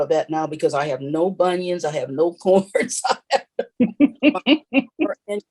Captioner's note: laughs